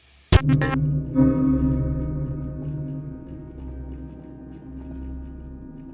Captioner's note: static crackles; brooding music